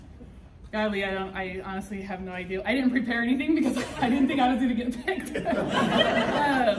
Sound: people laughing

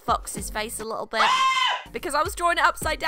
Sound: SCREAM sound effect

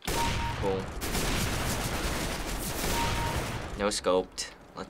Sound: gunfire; kill chime

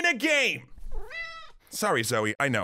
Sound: meow

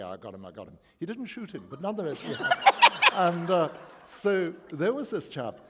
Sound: laughter

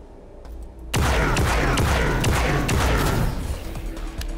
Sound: gunshots

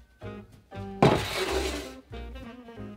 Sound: pan sliding

